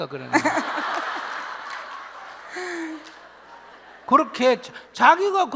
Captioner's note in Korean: 질문자와 청중 웃음